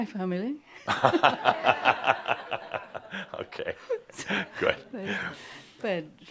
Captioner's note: Adamus chuckles and some laughter